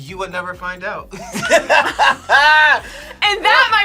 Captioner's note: both laugh